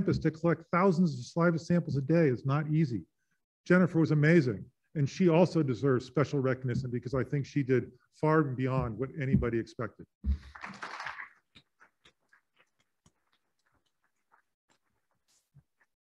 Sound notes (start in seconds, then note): 10.4 applauding